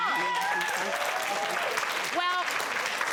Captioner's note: cheering